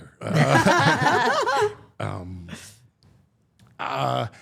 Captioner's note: all laughing